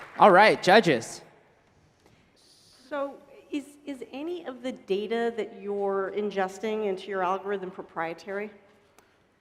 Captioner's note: applause